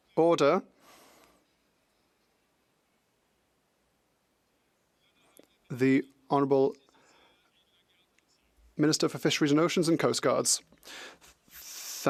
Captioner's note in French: voix de l'interprète